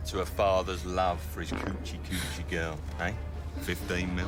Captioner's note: men farting